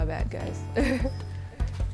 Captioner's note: chuckles